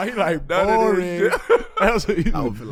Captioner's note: laughing